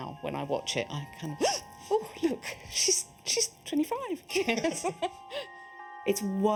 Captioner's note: gasps; laughs; gasps